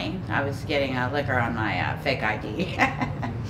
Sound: chuckling

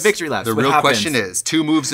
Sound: Katya laughs

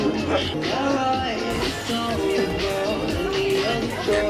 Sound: bursting with laughter from all the reactions

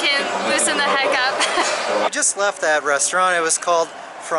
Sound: laughter

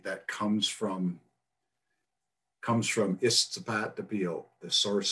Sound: speaks foreign language

